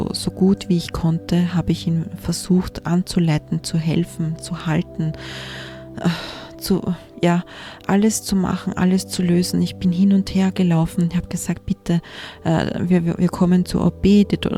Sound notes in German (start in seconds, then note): 7.4 japst